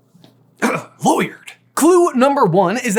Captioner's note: grunt